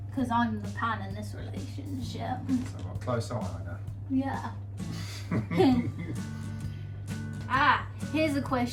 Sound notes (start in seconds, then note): 5.0 laughs